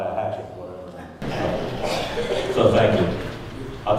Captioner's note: audience laughing